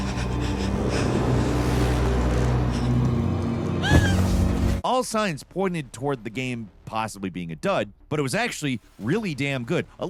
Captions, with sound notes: (game character whimpering) (game character screams) All signs pointed toward the game possibly being a dud, but it was actually really damn good.